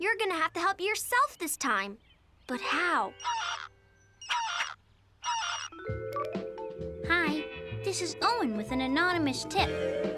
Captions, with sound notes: YOU'RE GOING TO HAVE TO HELP YOURSELF THIS TIME, BUT HOW? [cell phone ringing] THIS IS OWEN WITH AN ANONYMOUS TIP.